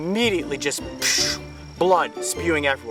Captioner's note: spewing sound